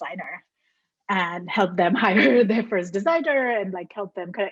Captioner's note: laughs